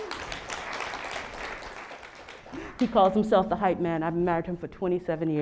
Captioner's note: applause